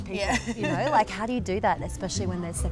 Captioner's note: laughs